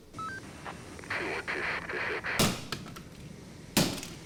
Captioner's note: radio buzzing